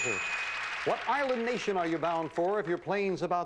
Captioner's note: audience applauding